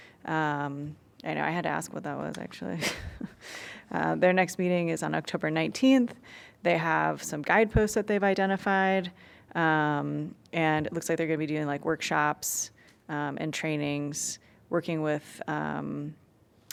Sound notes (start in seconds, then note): 2.7 laughter